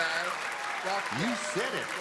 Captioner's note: cheering